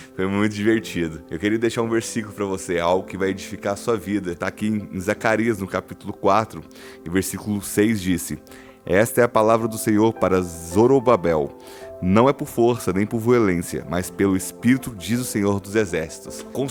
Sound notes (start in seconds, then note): none